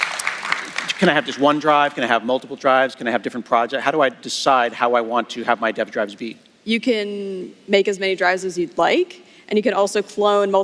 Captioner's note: applause